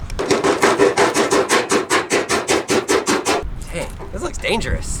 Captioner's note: loud banging on table